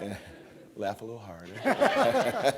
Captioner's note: laughter